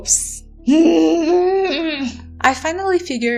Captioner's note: angry noises